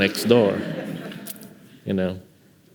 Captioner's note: audience laughing